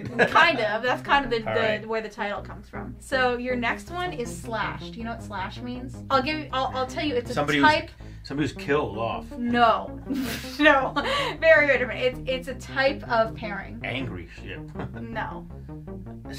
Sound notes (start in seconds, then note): 10.1 laughs